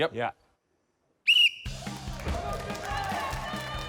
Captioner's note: blows whistle; jaunty music